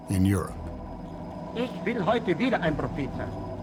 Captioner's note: speaking German